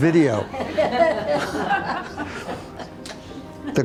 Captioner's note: group laughs